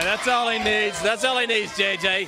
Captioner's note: crowd cheering